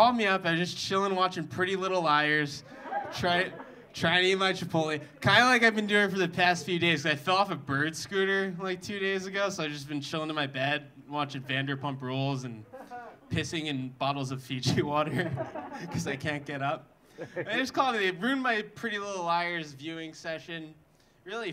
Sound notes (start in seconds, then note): 15.1 audience laughing